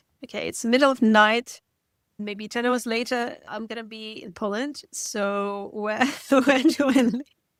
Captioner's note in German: lacht